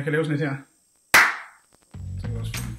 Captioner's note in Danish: Klap